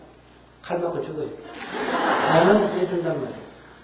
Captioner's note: audience Laughter